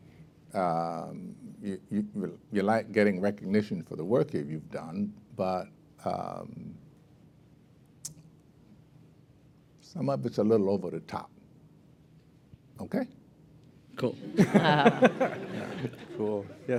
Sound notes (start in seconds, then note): 14.2 laughter